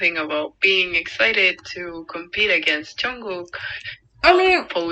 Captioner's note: none